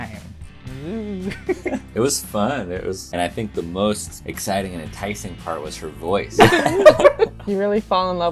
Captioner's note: laughter